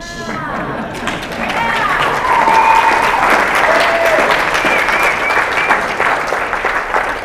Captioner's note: loud applause